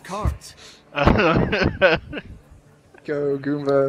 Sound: chuckles

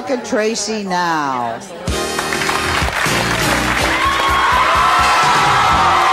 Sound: jazzy music; applause

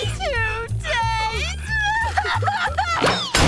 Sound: crying

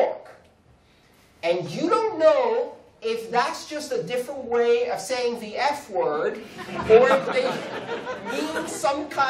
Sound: laughter

